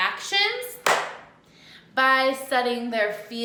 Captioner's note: clap